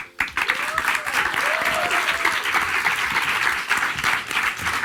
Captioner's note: audience applauds and cheers